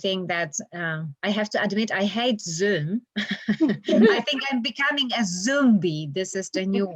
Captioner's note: laughter